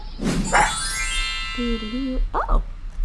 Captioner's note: dog barking